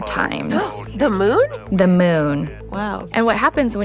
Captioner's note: gasps